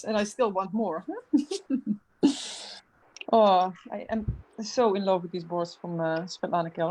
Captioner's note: laughs